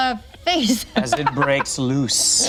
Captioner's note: laughs